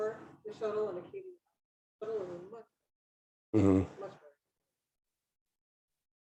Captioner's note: speaking faintly